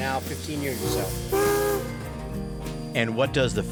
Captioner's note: train whistling